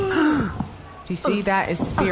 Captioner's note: gasps